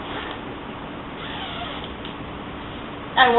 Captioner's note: zipper whooshing